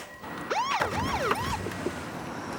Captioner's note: siren rings; car engine revving